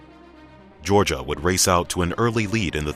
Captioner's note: voiceover